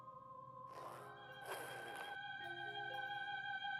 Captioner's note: zipper opening; soft music